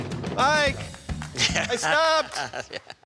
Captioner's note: laughter